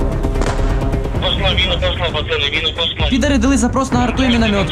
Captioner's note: russian radio